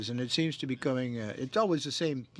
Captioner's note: speaking French